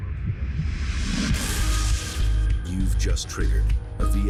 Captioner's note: electronic explosion